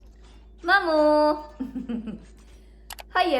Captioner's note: chuckles